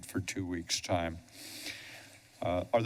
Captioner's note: inhales deeply